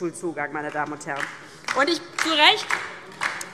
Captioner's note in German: Beifall DIE LINKE